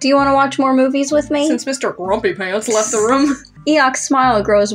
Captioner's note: snicker